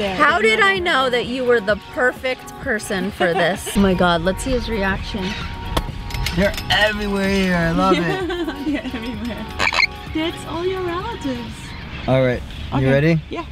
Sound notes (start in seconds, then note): 7.8 laughing; 9.2 bird chirps